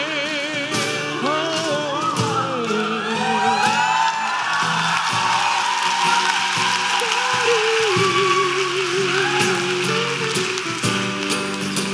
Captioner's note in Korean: 박수 및 환호